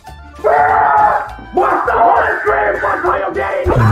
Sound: screams of the abyss

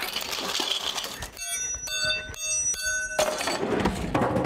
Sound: silverware clatters; high-pitched ringing

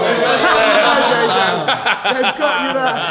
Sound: laughing

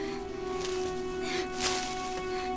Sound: rustling of bushes

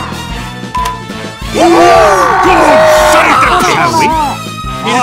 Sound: battle Cry!

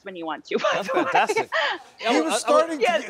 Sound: laughing

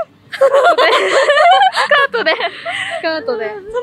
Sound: laughter

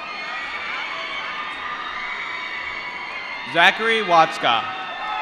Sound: applause

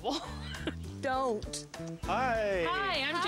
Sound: chuckling

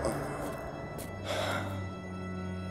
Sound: sighing

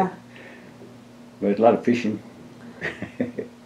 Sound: laughs

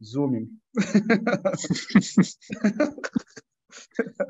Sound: both laughing

